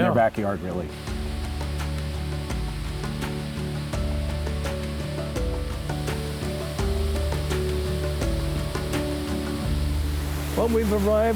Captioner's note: water falling